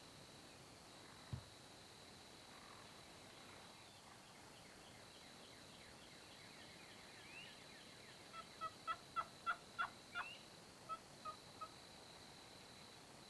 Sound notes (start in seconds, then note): 10.1 turkey yelps